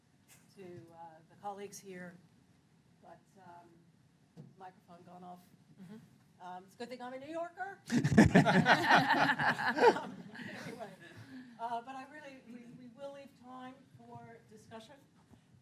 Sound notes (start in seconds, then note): 7.9 laughter